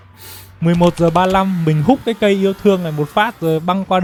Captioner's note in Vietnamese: khịt mũi